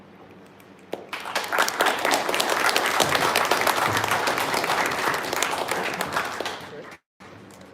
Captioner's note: applause